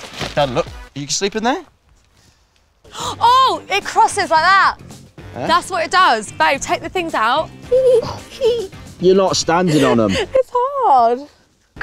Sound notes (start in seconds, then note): 7.5 giggles